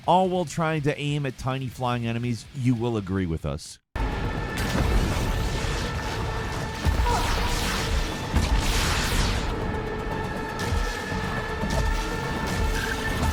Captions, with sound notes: all while trying to aim at tiny flying enemies, you will agree with us. (suspenseful music) (gunshots firing)